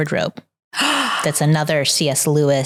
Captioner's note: gasps